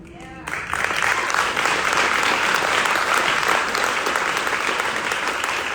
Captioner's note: audience applauds